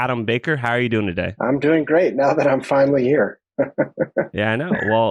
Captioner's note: laughs